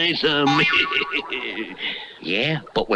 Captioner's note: Simon Bar Sinister Laughs